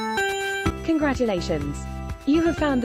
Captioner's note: british female voice